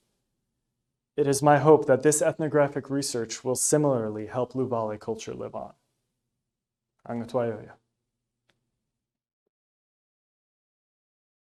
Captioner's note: speaking Luvale